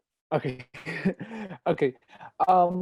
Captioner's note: chuckles